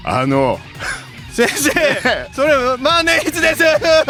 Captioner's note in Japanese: 笑い